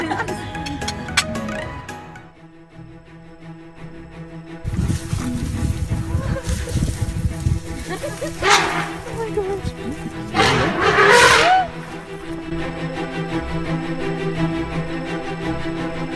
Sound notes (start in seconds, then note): 8.0 elephant screaming in the background